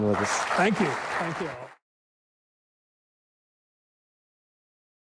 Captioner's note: audience clapping